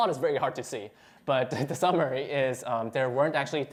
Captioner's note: laughter